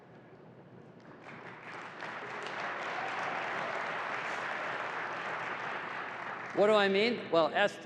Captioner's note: applause